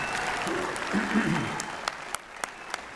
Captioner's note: applause